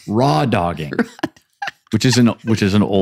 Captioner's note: laughing